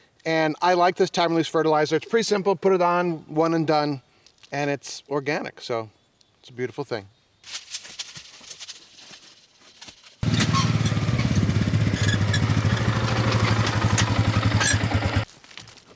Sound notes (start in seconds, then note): 7.5 pellets pattering; 10.2 engine rumbling